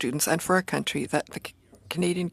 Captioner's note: speaking French